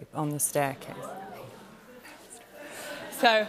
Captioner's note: audience "Oohs"; whispering